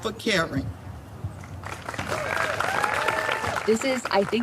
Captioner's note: clapping